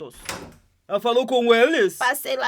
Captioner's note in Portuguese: porta abrindo